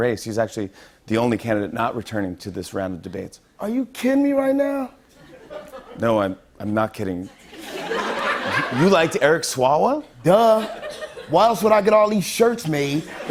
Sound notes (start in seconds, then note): 7.6 light laughter